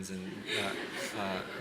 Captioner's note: laughter